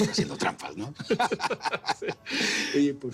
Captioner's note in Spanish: Risas